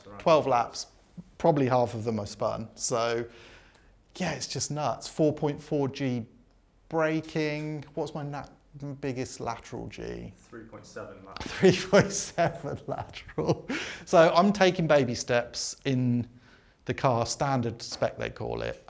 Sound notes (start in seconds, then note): 11.4 laughs